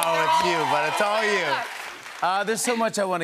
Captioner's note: cheers and applause